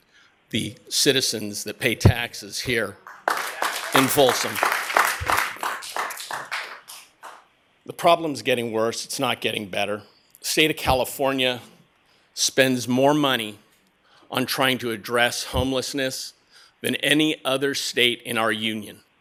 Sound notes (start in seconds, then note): 6.6 applause